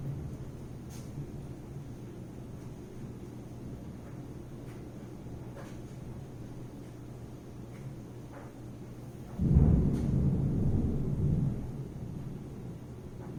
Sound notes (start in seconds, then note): 9.4 thunder